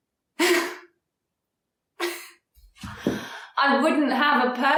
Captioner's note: woman chuckles